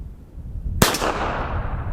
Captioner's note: pistol fires